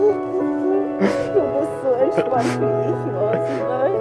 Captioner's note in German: Dumpfes Sprechen und Schluchzen